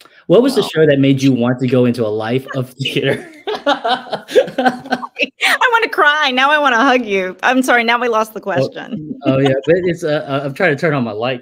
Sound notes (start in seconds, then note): 3.8 laugh; 8.5 laughs